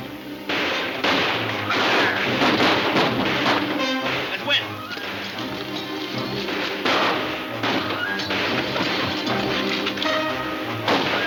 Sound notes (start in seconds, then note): 0.0 guns firing; 6.7 guns firing